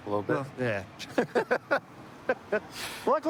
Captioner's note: laughter